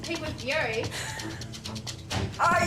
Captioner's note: laughs